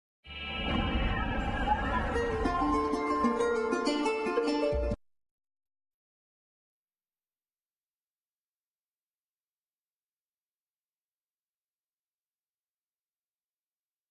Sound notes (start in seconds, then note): 0.9 digital synth music plays; 5.4 silence